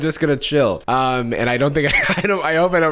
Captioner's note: laughs